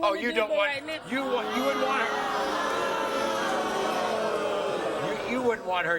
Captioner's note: audience jeering and booing